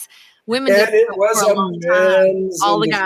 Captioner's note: static drowns out